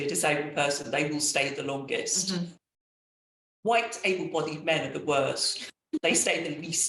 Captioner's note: laughing